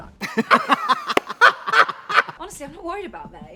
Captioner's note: both laugh